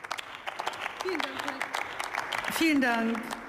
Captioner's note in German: Beifall